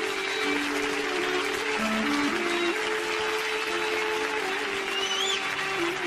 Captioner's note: applause